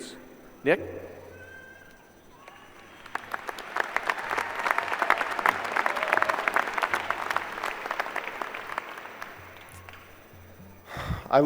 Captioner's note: applause